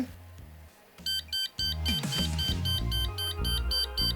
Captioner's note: beeping